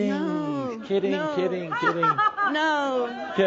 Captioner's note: laughter; laughs loudly